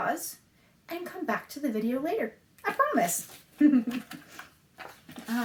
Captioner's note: laughs